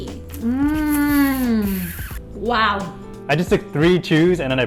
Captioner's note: slurps